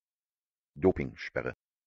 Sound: fast Pronunciation

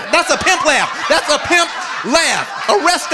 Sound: audience laughing

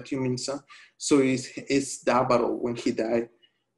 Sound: speaking spanish

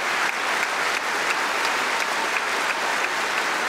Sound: cheering & Applause

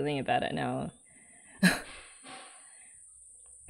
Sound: laughs

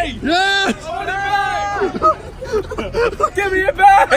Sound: laughing

